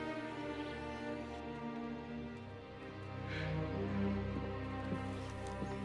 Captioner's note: exhales